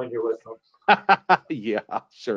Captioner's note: laughs